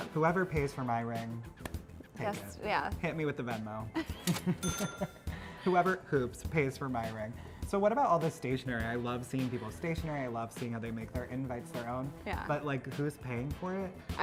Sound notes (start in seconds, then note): 3.9 both laughing; 4.6 cash register dings